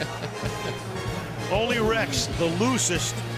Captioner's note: laughter